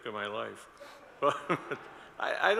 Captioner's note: audience laughs